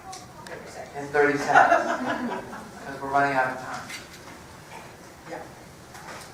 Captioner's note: laugh